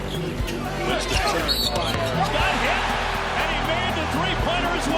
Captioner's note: whistle